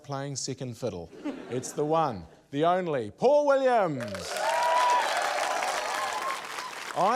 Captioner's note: cheering, applause